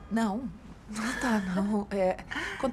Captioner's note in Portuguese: Cléo ri